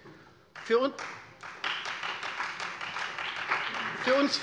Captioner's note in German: Beifall Freie Demokraten und vereinzelt CDU